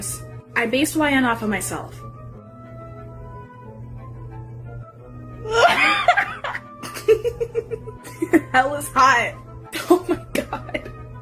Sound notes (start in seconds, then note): 6.8 more slight laughter